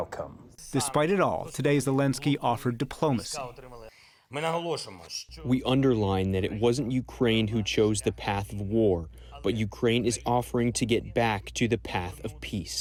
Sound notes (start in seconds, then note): 5.0 through translator